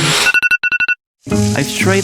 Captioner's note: iPhone alarm